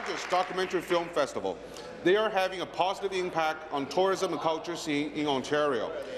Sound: applause

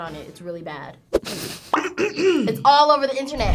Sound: coughs

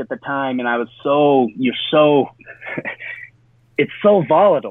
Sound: chuckles

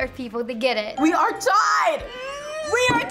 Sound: bell rings

